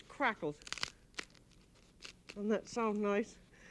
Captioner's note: bread cracking